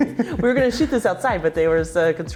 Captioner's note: both laughing